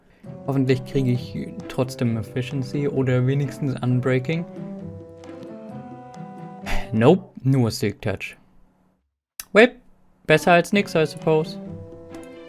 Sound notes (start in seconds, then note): 6.6 sigh